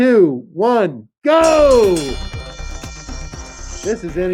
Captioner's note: bell ringing